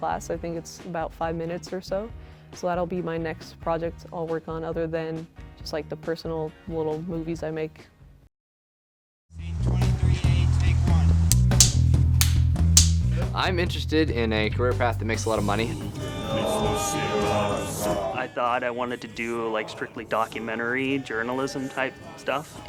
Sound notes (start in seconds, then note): 11.3 slate claps; 16.1 chanting